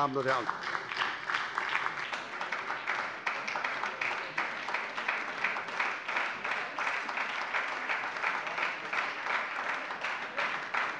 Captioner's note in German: Lebhafter Beifall bei der SPD